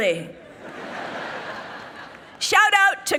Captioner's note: people laughing